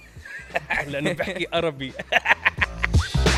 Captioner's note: in exaggerated Lebanese accent